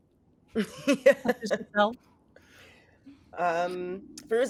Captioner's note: giggling